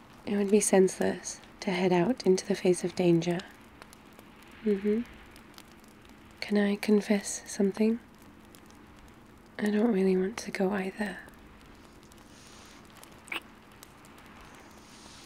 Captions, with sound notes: it would be senseless to head out into the face of danger mmhmm can I confess something? I don't really want to go either *kiss*